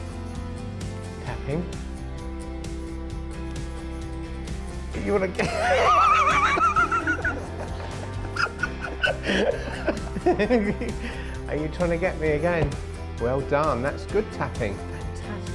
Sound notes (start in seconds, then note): 5.4 laughter; 11.3 laughing